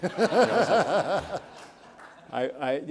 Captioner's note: audience laughs